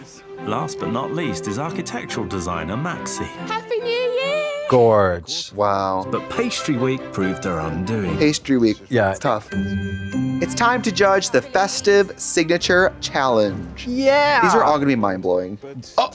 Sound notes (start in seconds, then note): 9.2 festive chime